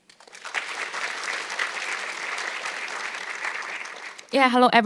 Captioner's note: audience clapping